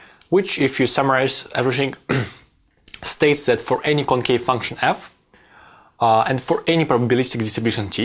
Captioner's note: cough